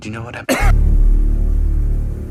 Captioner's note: obnoxious cough